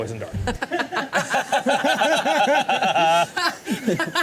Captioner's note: all laughing